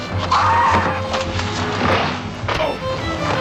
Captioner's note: screaming